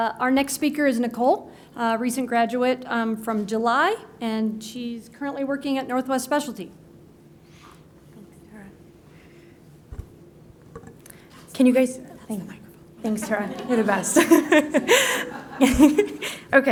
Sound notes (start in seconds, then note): 12.3 whispering; 13.2 laughter